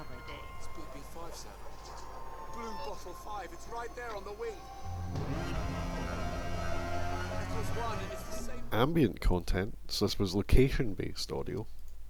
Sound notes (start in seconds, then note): 0.2 windy noises; 5.1 machine Whirring